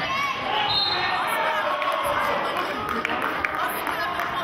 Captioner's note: whistling